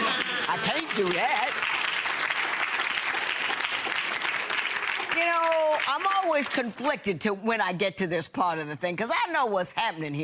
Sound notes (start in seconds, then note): 2.9 audience applauding